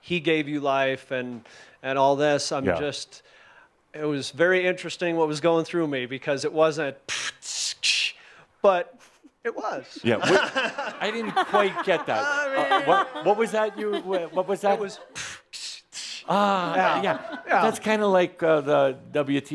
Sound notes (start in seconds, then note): 11.0 he chuckles; 13.5 laughter